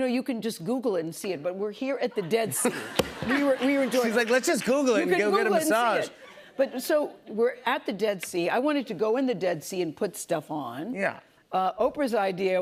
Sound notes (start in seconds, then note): 2.1 laughter